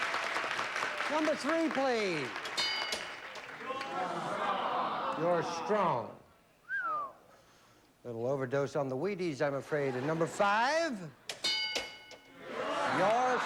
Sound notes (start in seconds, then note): 6.6 whistles